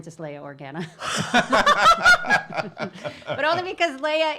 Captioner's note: laughing